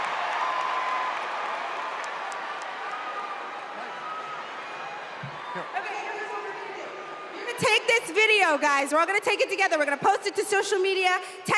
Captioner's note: cheers and applause